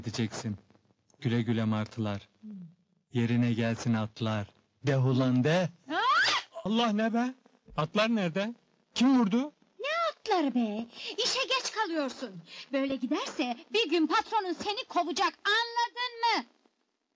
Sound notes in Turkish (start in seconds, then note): 6.2 bağirir